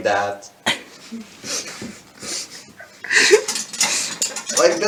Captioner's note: sounds of desperately trying to hold back laughter